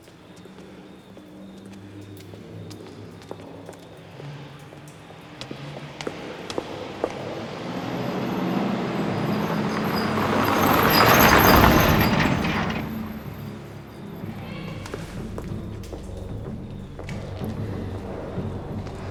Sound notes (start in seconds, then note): 0.2 foreboding music; 7.4 engine rumbling